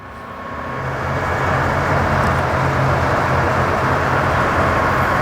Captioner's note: engine roaring